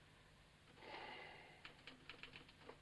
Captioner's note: sighs; typewriter chattering